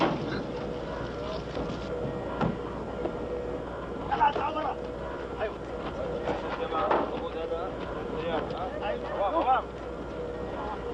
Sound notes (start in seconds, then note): 4.4 men shouting in Arabic